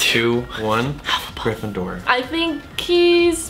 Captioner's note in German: flüstert